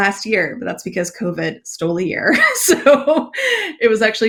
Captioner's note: laughs